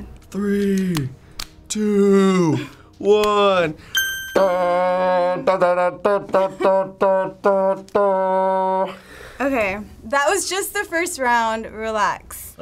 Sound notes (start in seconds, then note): 3.9 ding!; 4.4 vocalizing triumphant fanfare